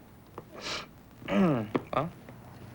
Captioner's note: sniffs